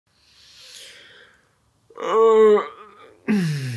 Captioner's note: waking up sounds